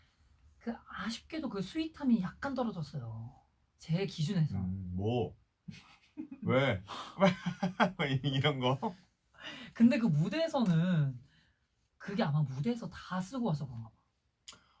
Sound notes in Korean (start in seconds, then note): 5.6 퉁명스럽게